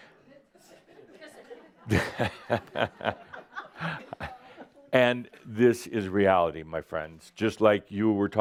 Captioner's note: Adamus chuckles